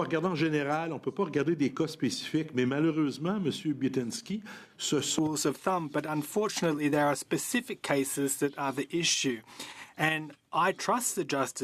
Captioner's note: speaking French